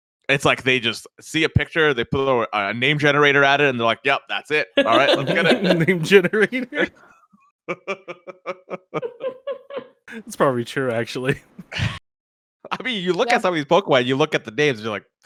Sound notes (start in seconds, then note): 4.8 laughs